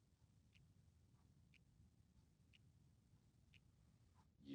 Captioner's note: clock ticking